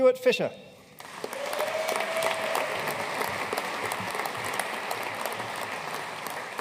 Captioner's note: audience cheering and applauding